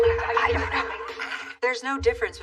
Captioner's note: laughs